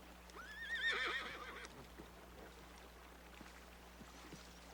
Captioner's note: horse whinnies